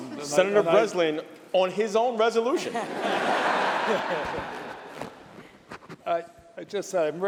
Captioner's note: laughter